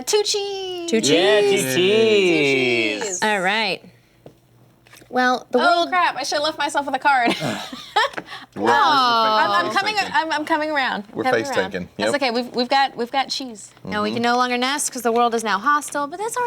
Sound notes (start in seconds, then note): 9.0 laughs